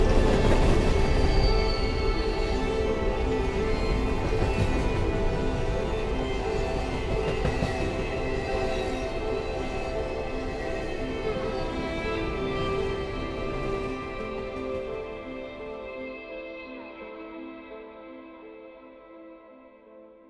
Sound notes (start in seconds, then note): 5.5 train rumbling